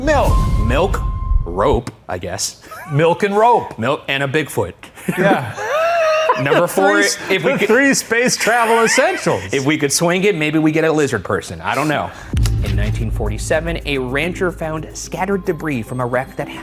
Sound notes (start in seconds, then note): 5.0 laughs